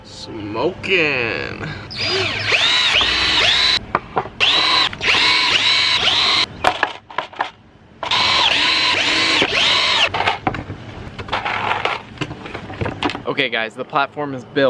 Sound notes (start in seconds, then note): 1.9 sounds of power tools